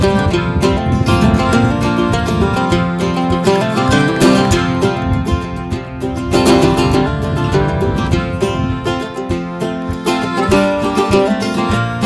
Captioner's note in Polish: Aplauz